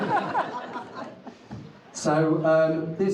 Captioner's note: audience laughs